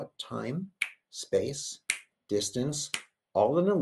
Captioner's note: clicks fingers